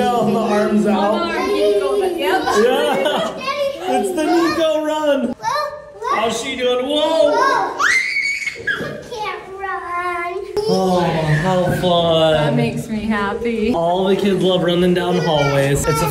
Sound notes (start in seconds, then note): 3.8 laughs; 7.3 shouts